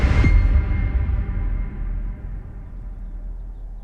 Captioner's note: seagulls calling